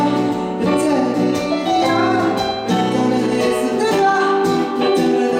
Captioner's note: mumbling